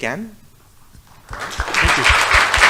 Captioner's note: audience applause